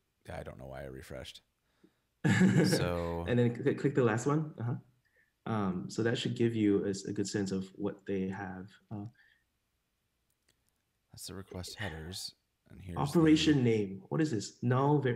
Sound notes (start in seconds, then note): 2.3 laughs